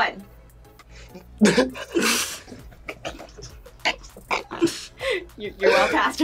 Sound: both laugh

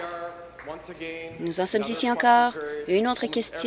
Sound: applause

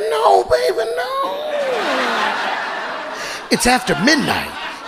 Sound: audience laughing

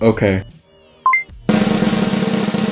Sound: ding; drumroll

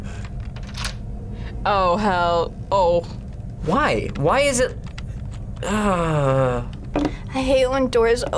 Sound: groans

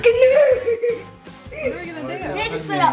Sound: laughs

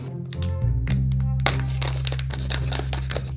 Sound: knife cutting

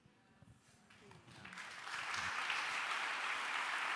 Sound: applause

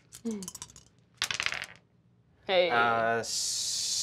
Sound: dice rattle

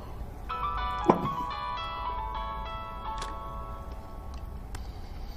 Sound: phone ringing

